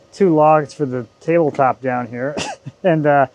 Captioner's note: chuckles